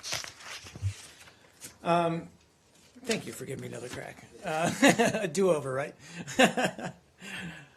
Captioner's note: laughter